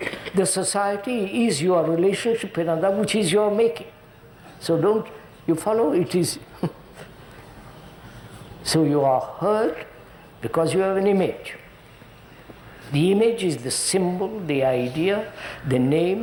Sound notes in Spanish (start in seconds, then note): 6.5 risas